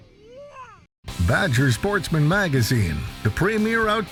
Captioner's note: voiceover